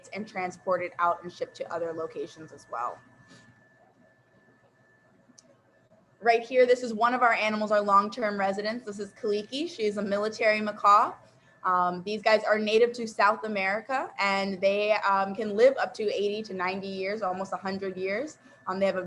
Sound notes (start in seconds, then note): none